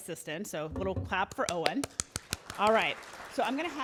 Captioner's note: applauding